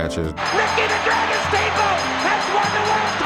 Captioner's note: bell rings